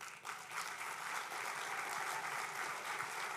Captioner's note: applause